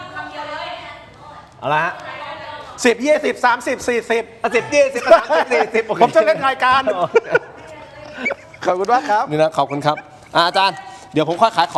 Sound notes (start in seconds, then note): 7.6 laughs